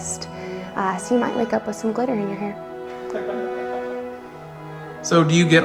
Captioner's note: laughs